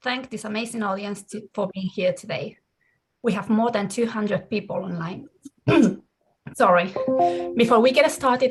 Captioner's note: clears throat